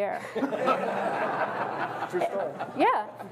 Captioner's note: everyone laughs